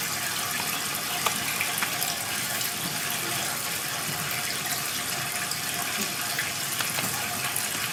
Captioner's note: water trickling continues